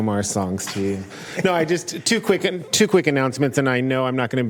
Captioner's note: laughter